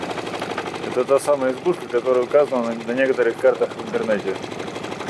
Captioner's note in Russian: оператор дублирует